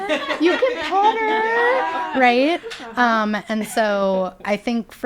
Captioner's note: people laughing